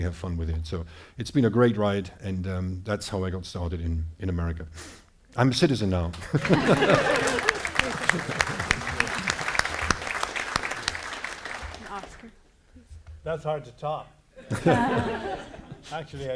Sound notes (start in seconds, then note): 6.2 applause; 14.4 audience laughing